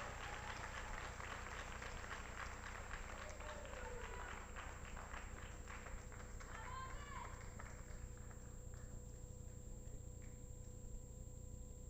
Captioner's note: applause